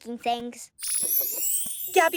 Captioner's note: chime